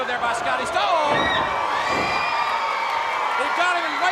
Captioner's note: crowd cheering